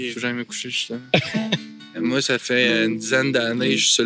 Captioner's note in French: rire